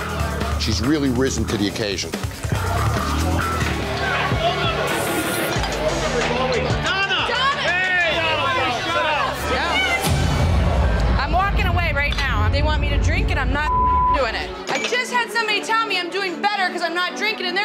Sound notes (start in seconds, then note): 3.8 loud chatter; 8.6 loud chatter